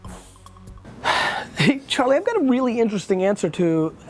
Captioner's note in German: Seufzt